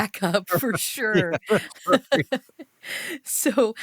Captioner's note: laughs